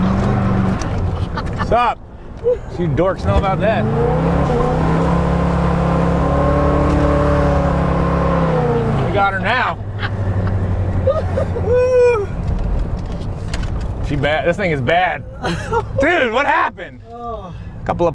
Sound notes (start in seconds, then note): 4.2 car revs